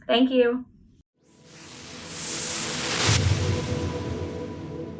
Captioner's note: whooshing